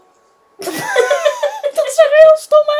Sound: both laughing

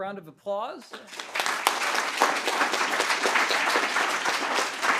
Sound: audience applauding

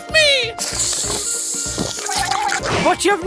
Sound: sip

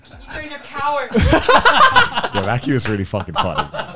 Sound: all laughing

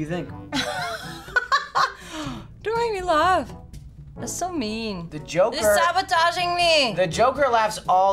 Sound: laughs

